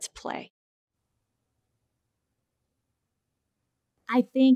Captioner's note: silence